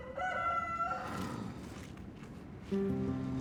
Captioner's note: rooster crows